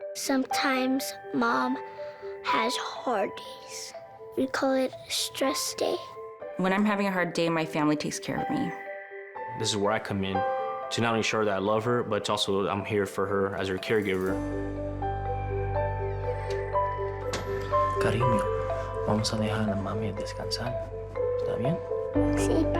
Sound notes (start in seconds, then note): 0.0 gentle music; 15.5 door closes; 15.5 gentle music; 18.1 speaks in foreign language